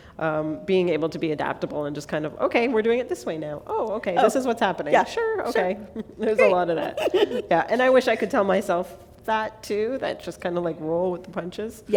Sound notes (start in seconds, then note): 5.7 laughter